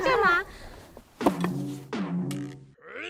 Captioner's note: slamming Slamming